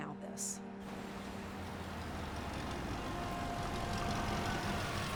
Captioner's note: engine rumbling